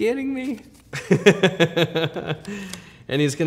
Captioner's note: laughs